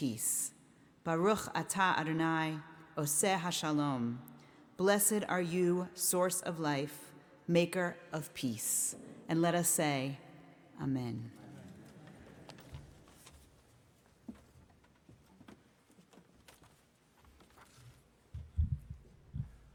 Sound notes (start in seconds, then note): 1.4 speaking in foreign language